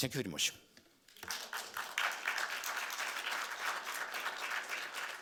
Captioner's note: audience clapping